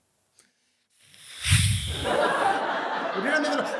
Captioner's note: hisses